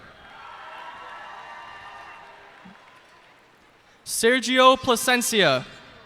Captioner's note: cheers and applause